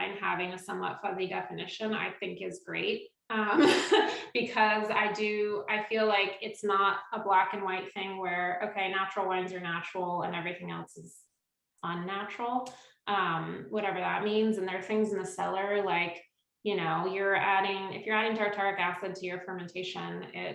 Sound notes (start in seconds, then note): 3.6 laughs